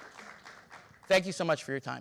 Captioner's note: audience applause